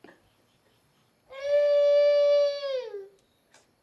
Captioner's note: wailing